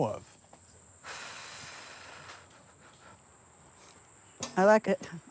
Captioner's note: sighs